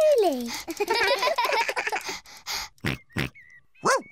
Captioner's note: all laugh; george panting, snorts